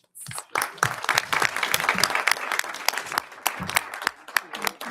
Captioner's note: audience applauding